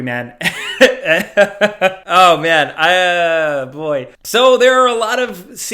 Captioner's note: laughs